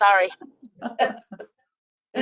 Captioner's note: laughter